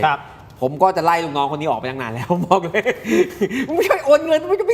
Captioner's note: laughs